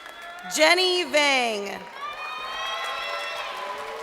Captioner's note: crowd cheering